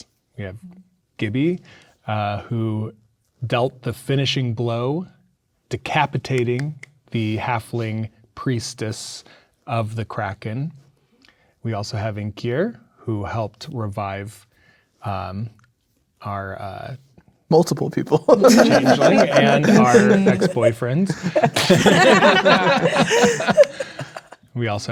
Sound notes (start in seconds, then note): 18.2 players laughing